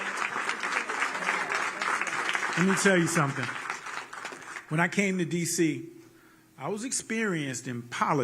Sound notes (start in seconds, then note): 5.3 applause